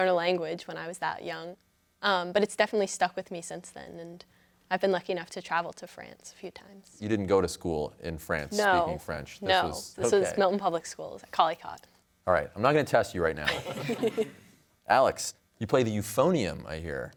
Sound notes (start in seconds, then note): 13.4 laughter